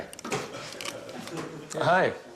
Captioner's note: muffled laughter